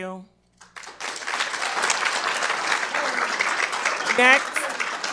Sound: attendees applauding

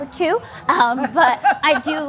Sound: laughing

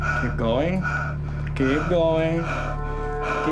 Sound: breathing

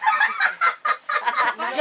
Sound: laughing

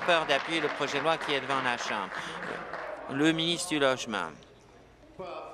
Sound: applause

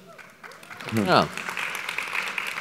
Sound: applause

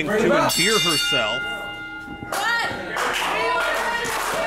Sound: bell rings

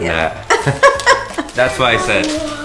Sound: laughter

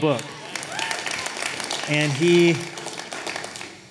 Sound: cheers and applause

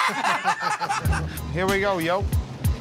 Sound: laughter

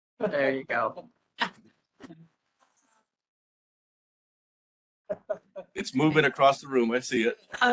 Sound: laughing

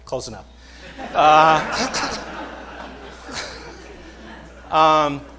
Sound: laughter

